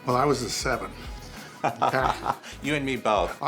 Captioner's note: laughter